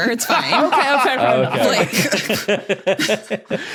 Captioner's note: laughs; laughs uproariously